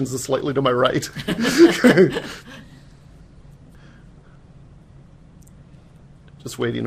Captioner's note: laughter